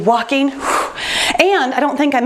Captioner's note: sighs heavily